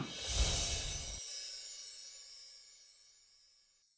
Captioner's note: chiming sounds